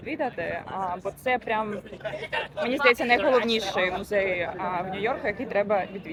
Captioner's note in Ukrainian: сміх